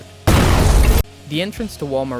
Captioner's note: boom!